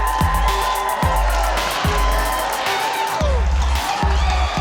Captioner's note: upbeat techno music; crowd cheering